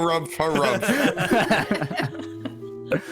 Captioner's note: all laughter